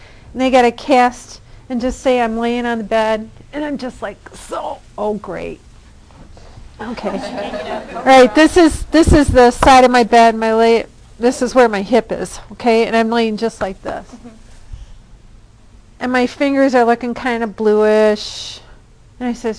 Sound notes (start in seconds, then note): 6.8 class laughing